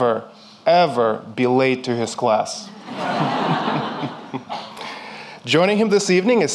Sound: audience laughing

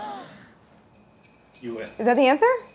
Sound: breath drawn in; bells jingling

